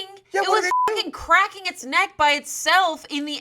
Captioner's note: beep